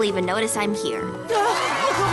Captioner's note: cheering